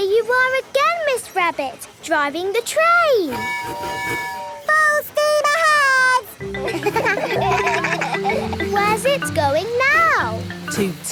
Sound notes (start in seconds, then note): 3.3 tooting; 6.5 kids laugh